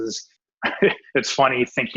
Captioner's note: laughs